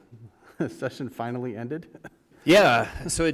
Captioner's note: chuckle